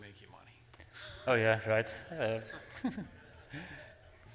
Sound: laughs

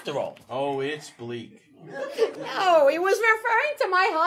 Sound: audience laughing

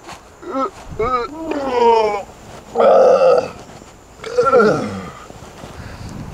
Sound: Mack Vomiting

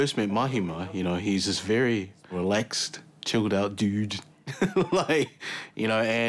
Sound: laughs

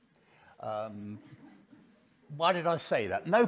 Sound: audience laughing

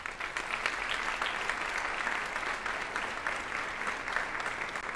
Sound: audience applauding

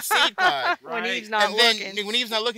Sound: laugh

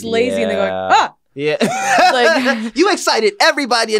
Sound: gasps

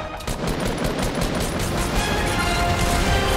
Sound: suspenseful music; gunfire

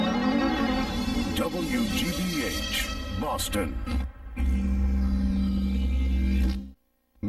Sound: neon electricity zaps

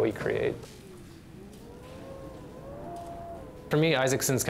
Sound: wind howling

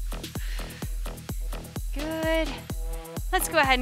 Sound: breaths

